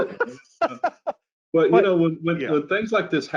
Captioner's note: laughs